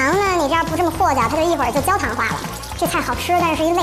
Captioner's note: nonstop Chatter Mode